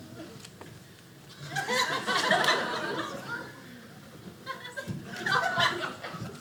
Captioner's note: audience laughing